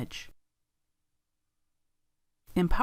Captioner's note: silence